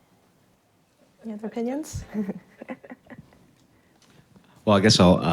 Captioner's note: chuckles